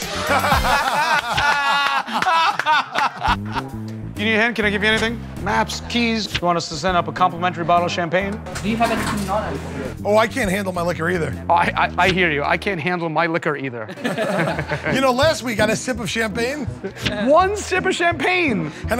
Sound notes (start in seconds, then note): 0.1 laughter; 13.9 all chuckle